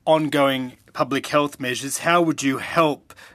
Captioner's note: speaking French